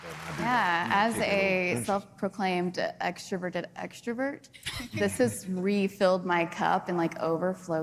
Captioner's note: applause